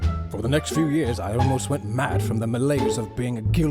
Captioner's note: none